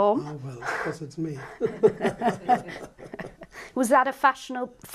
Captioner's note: laughter